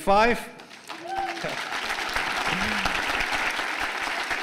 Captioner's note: applause